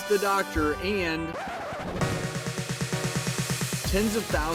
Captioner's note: record scratches